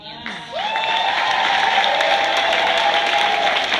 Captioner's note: cheers, applause